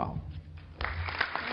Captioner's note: applause